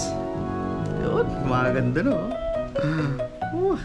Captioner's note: excited